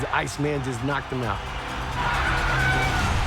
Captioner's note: Tito shouting